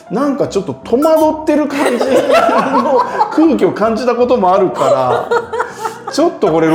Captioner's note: laughing